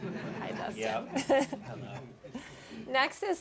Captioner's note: laughter